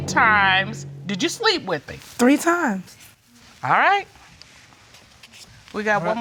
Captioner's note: none